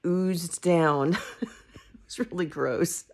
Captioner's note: laughing